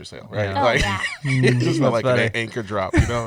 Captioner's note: laughs